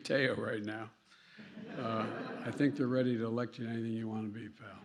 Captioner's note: laughter